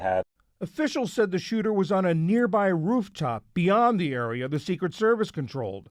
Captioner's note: voice-over